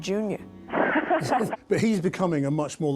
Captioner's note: interviewer laughs